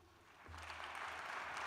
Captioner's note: applause